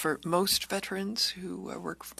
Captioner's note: speaking French